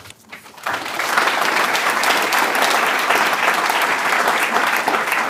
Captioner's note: applause